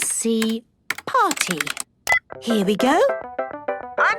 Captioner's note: beep